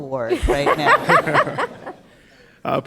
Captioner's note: laughter